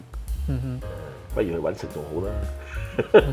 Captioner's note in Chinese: 廣東話